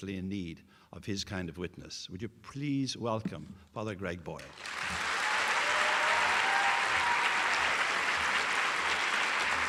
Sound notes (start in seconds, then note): 4.4 applause